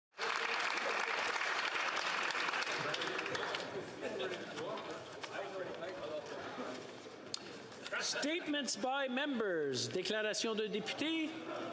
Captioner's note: applause